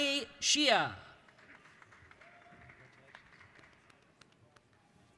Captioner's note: applauding